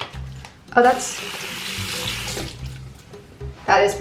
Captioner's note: water splashing